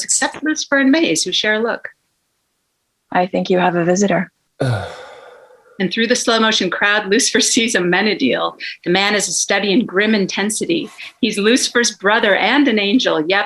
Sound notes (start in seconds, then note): 4.6 sighing